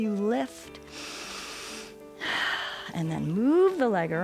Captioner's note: inhales and exhales